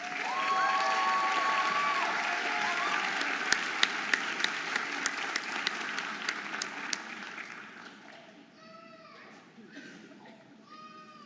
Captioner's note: audience applauding and cheering